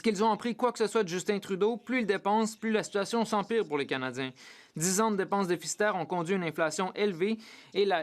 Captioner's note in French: voix de l'interprète